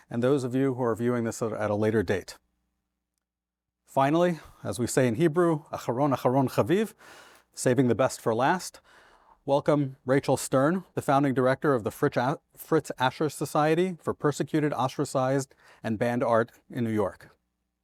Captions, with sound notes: and those of you who are viewing this at a later date. Finally, as we say in Hebrew, (speaks Hebrew) saving the best for last. Welcome, Rachel Stern, the Founding Director of the Fritz Ascher Society for Persecuted, Ostracized, and Banned Art in New York.